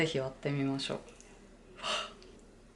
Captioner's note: gasp